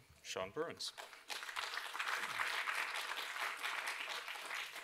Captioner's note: applause